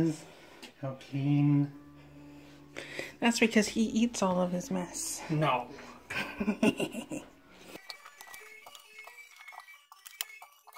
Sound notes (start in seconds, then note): 6.0 evil laugh